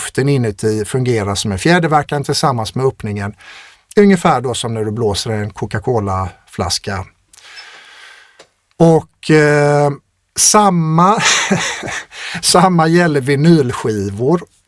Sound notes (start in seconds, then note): 11.2 laughter